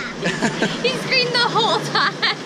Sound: laughs

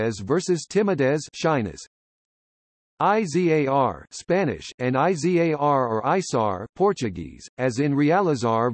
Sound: Spanish

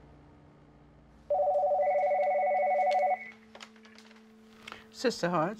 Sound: phone ringing

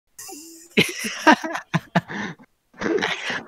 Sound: laughter

